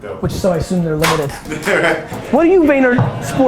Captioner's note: laughs